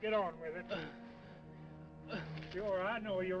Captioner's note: Cooncat moaning